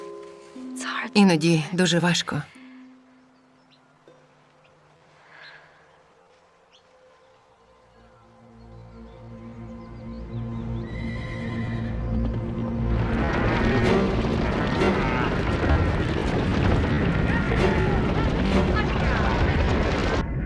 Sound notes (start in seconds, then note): 10.4 loud rumbling, horses neighing; 10.7 cattle mooing